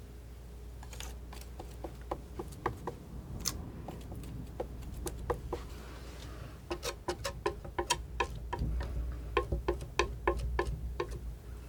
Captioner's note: tapping